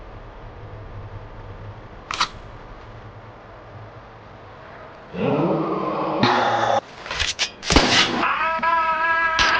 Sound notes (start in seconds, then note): 2.1 gun cranking; 5.2 gangster yelling; 7.6 blade slicing; 8.2 gangster screaming